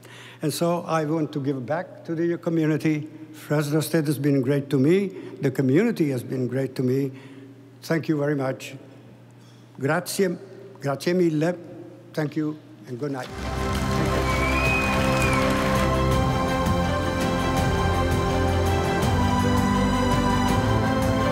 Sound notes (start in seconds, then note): 10.3 speaking in foreign language; 13.2 stately music; 13.2 audience applauding